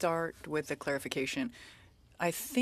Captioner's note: speaking French